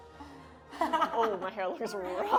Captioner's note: laughing